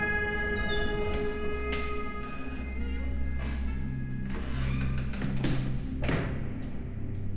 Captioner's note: door squeaks closed